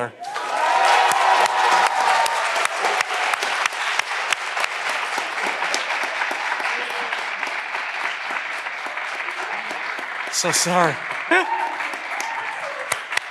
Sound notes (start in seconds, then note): 0.2 all clapping; 0.2 candidates cheering; 11.2 laughs